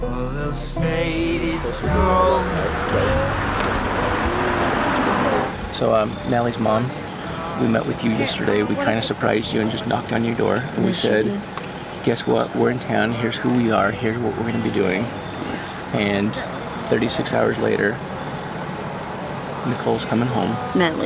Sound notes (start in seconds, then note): 3.5 engine revving